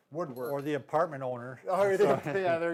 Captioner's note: laughs